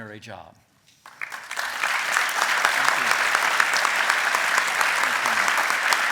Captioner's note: applause